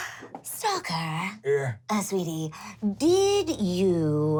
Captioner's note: none